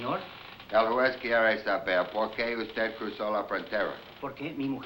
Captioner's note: speaking spanish